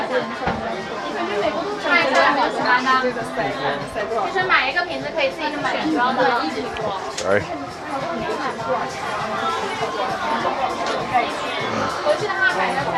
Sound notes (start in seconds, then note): 2.6 speaking in foreign language; 8.9 crowd chattering